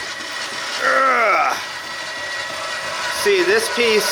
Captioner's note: grunt